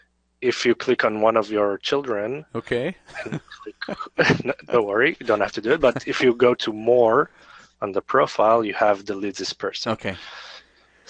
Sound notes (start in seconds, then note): 3.0 laughs